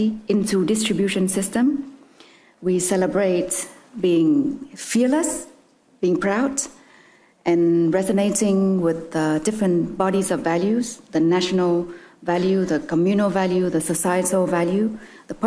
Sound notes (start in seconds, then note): none